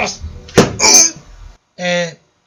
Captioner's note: slam